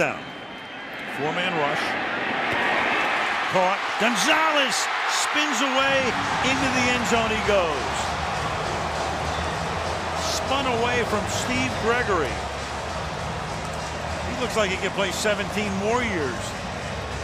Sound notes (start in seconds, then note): 8.5 cheering